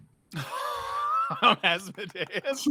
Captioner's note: laughs